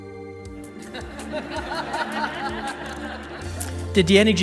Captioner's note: audience laughs